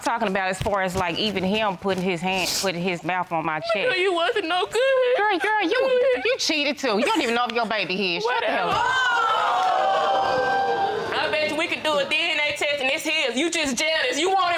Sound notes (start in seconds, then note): 8.6 audience exclaiming